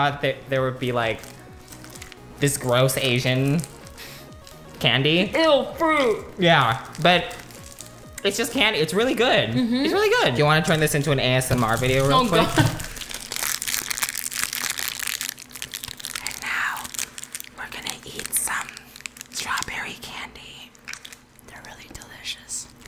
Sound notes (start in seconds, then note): 11.9 giggles; 13.4 crinkles candy wrapper; 16.9 whispers